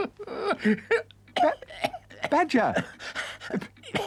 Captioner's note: Badger coughs